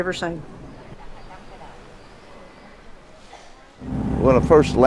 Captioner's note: birds chirping